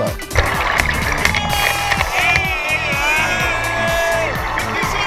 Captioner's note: drunk dudes screaming